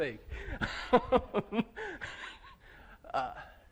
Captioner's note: laughter